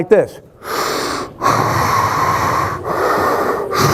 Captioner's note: heavy breathing